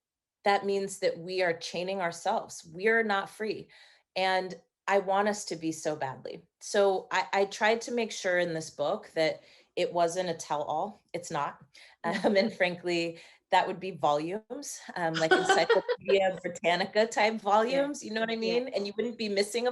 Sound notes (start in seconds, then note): 15.1 laughing